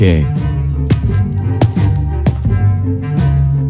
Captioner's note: footsteps